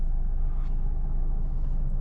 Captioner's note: car engine roaring